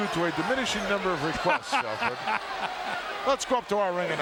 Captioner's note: chuckling